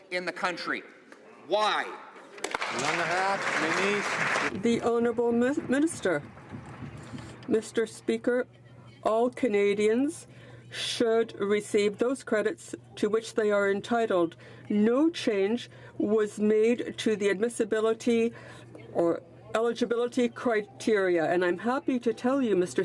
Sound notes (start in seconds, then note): 4.9 some Applause